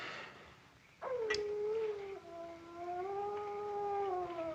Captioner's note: coyote howling in distance